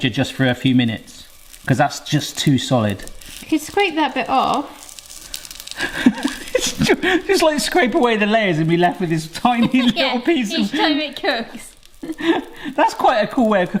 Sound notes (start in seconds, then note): 5.7 laughs; 9.3 laughs